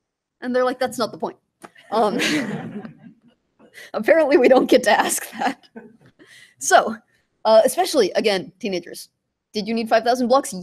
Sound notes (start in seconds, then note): 2.0 laughter